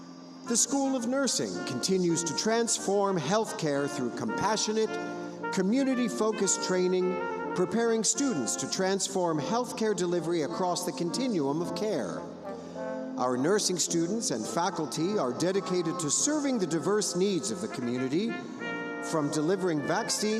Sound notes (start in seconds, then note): none